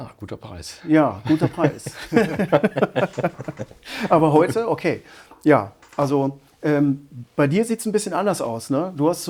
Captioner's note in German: gelächter